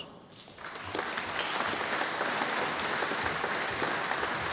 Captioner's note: audience applauding